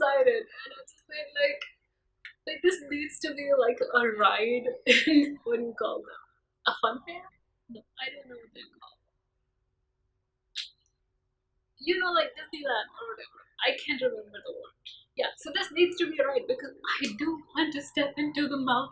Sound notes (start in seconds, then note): 10.5 clicks tongue